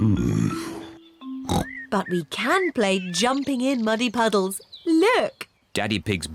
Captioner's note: oinks